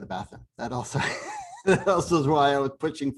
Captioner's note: laughter